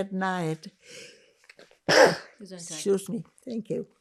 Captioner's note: sneezing